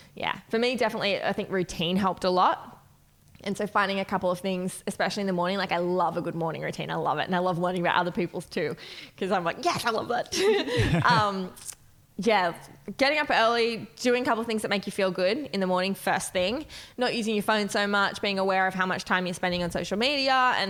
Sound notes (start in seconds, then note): 10.4 laughing